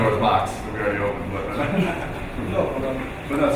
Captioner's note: laughing